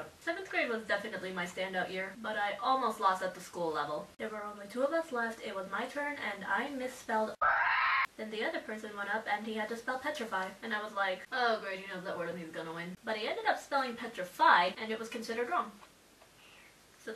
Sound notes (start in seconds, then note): 7.4 squawk